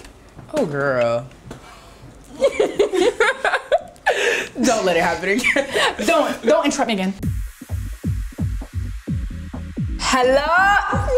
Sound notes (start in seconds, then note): 2.3 laughing